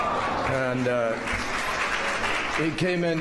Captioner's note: applause